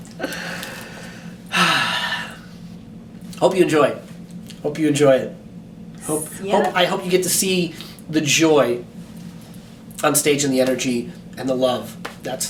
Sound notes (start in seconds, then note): 1.5 sighs